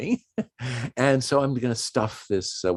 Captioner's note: chuckles